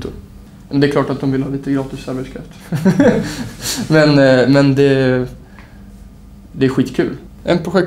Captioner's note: laughs ironically